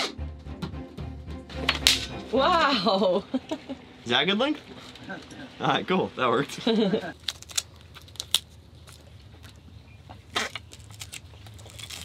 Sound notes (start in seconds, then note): 2.6 laughs; 6.5 laughing